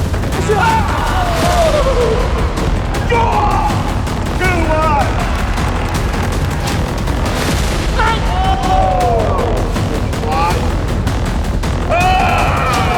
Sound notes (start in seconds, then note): 0.0 crowd cheering; 8.0 crowd cheering